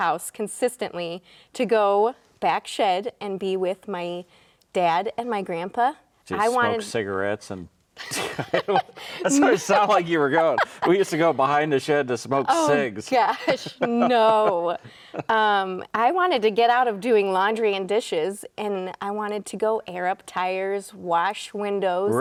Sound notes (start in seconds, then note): 8.0 both laughing